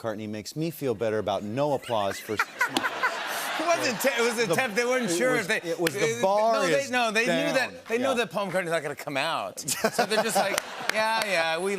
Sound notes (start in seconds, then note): 2.0 laughter